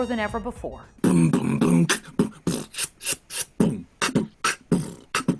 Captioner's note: beatboxes